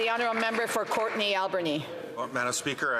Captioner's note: applause